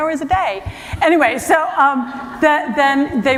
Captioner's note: laughter